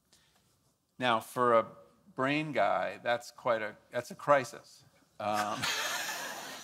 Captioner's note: laughs